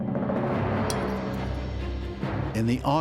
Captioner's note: a spoon clinks against a plate